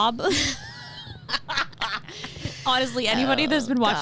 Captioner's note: laughing